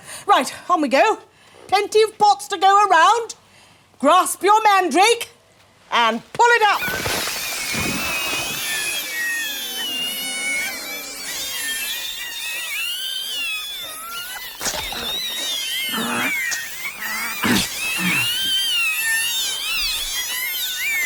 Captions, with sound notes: Right, on we go. Plenty of pots to go around. Grasp your Mandrake. And pull it up! [Mandrakes crying]